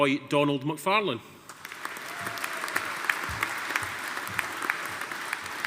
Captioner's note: audience applauding